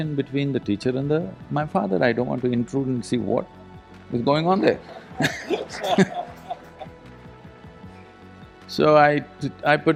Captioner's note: laughter